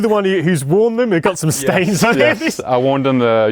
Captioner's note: laughing